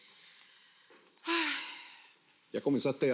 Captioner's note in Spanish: Ella suspira